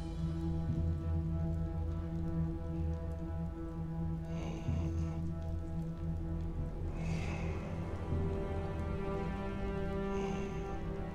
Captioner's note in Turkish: Nefes sesleri